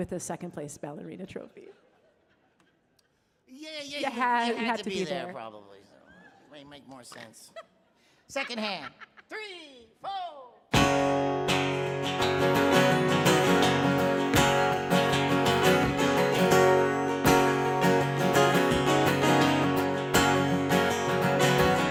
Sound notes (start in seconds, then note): 8.3 laughing; 15.6 cheerful guitar music